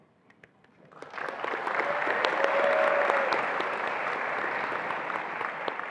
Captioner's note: attendees applauding and cheering